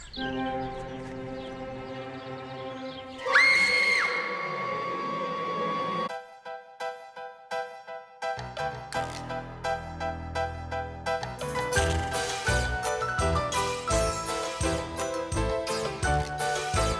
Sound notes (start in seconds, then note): 3.2 Arrietty screams